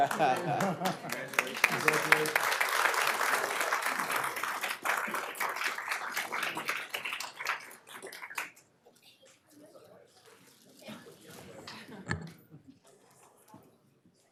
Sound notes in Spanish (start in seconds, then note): 5.9 aplausos